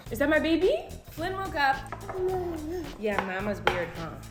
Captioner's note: baby gibberish